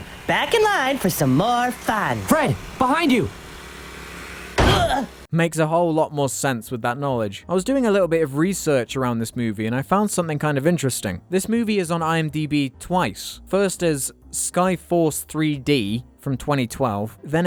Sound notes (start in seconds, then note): 4.6 hitting sound